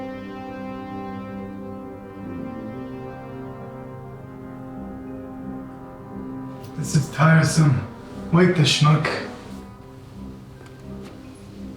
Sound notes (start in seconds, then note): none